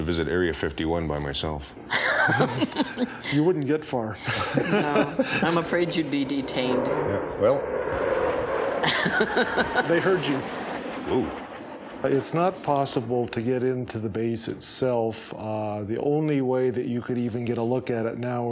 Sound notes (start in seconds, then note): 4.2 laughing; 7.0 jet flies